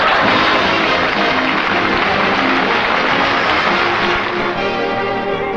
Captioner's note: applause